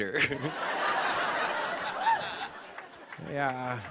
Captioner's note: laughter